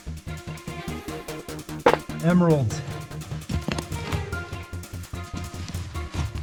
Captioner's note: shovel clanging